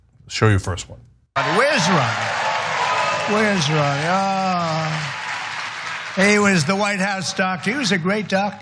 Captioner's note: applause